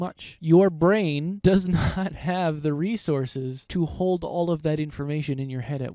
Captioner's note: laughing